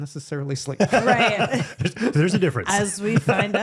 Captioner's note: both laughing